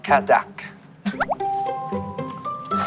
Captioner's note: laughing